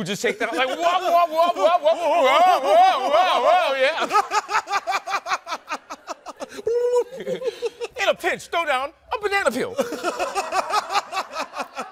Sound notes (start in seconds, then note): 4.1 laughing; 6.5 imitating three stooges